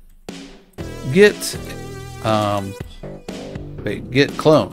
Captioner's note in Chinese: 英语